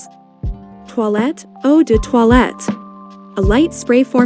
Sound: french Speaking: Eau de Toilette

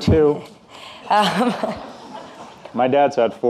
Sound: audience laughing

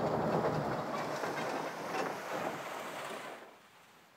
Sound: engine approaching

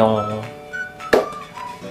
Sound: clap

